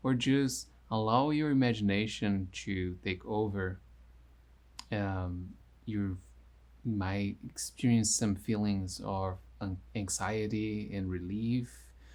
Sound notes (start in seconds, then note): none